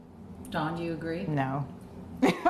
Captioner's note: laughs